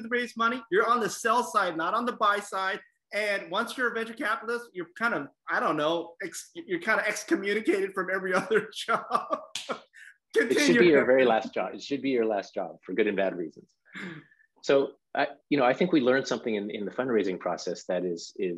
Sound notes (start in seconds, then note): 8.2 laugh